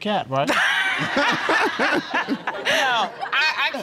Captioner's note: all laughing